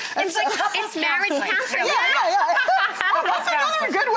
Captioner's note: laughing